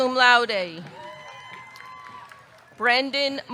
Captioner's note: audience cheering; audience clapping